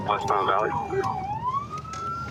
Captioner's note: sirens